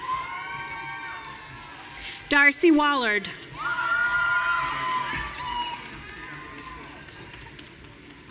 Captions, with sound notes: (audience cheering) Darcy Waller. (audience cheering)